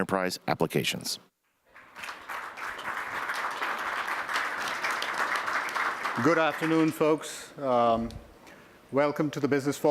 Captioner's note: applause